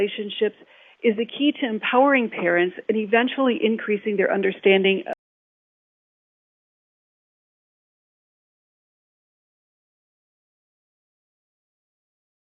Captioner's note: audio gap